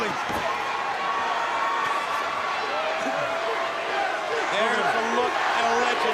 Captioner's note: crowd cheering